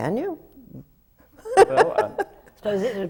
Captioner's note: laughs